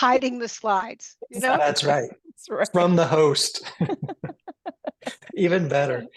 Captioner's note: multiple laugh